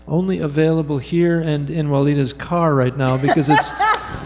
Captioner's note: laughing